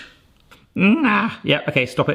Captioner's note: groans